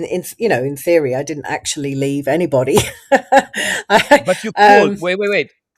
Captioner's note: laughs